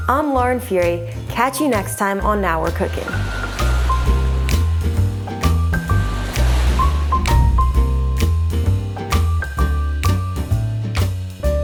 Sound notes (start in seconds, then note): 2.6 waves murmuring; 3.2 upbeat groovy jazz music